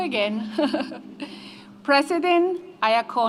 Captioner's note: laughs